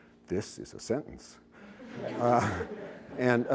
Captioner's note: laughter